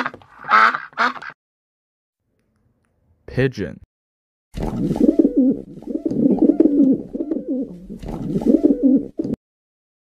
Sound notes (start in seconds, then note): 0.0 duck quacking; 4.9 pigeon cooing